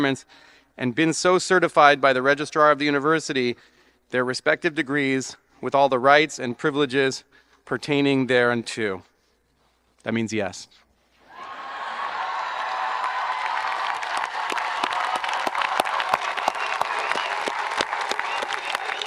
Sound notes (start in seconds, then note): 10.5 applauds; 11.3 audience applauding and cheering